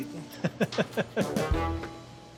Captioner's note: chuckling